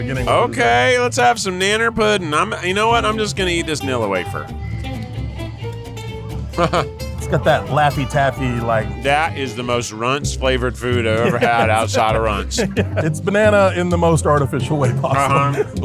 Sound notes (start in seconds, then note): 4.6 lively upbeat music; 6.4 chuckles